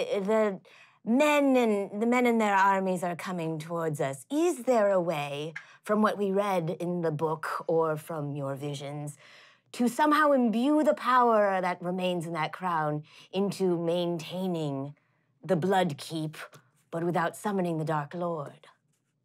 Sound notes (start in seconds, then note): none